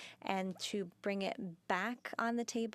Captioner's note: speaking in French